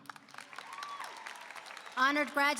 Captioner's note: applause